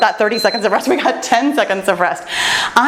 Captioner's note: timer beeps